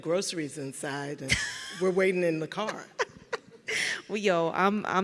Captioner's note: laughing